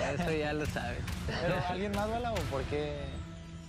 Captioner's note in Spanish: ríe